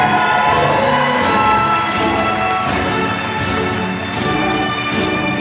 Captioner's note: applause